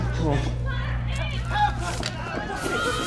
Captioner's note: mob shouting again; mob panic; tear gas hissing